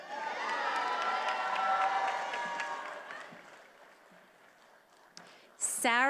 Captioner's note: attendees applauding and cheering